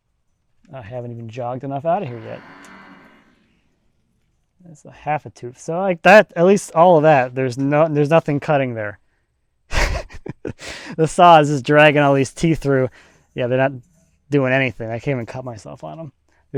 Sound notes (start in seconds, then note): 9.7 laughing